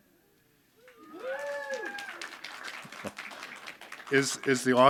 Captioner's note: audience applauding